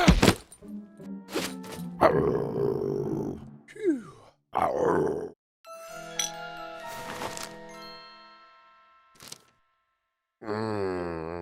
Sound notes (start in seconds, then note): 2.1 growl; 4.6 growl; 5.7 intriguing music